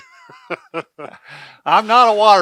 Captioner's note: both laughing